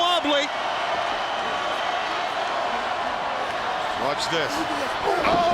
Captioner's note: crowd chanting